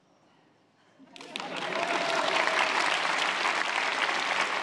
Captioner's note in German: Applaus, Lachen